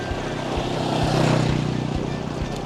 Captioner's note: ATV roars past